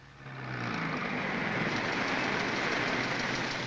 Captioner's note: cars rumbling